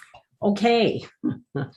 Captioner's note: laughs